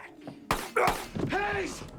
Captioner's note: gun firing